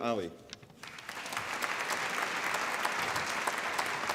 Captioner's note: applause